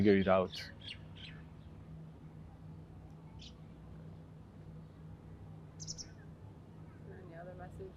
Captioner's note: pauses 6 seconds